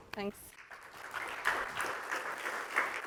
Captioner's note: applause